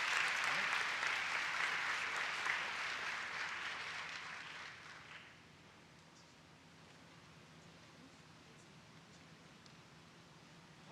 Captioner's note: applause